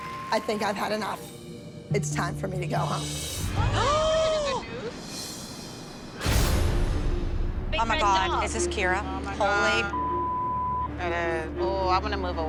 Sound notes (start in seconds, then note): 3.6 gasps